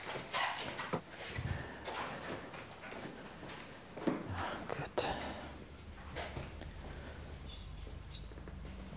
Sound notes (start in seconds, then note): 4.3 sighs, softly